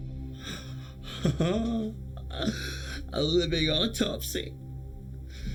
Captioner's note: chuckles